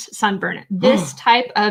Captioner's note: gasping